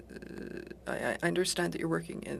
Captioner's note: speaking French